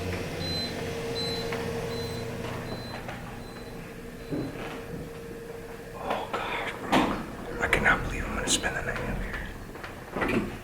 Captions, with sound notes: (ELEVATOR BEEPING) (WHISPERS) OH GOD I CAN NOT BELIEVE WE ARE GOING TO SPEND THE NIGHT UP HERE